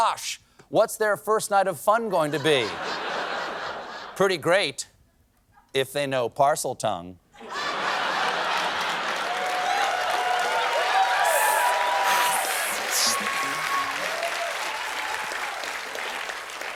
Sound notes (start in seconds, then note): 8.4 cheers and applause